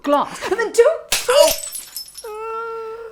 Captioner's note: glass shatters